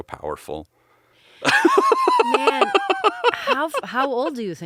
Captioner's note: laughing